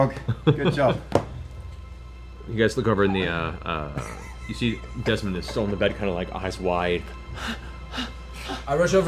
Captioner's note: panting